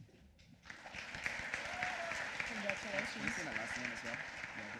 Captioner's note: applause